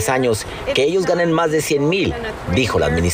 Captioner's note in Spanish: habla en ingés